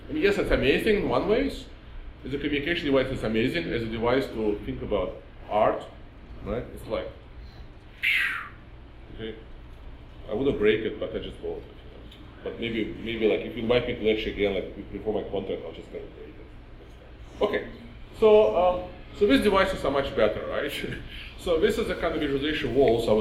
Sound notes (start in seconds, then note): 7.9 blowing air